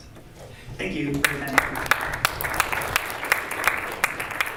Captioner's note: clapping